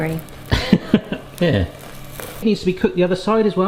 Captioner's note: laughs